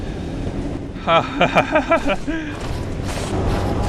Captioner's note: nervous laughter